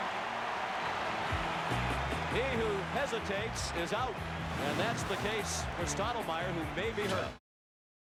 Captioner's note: applause; cheering and Applause